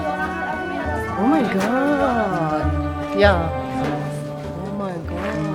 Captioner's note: speaking German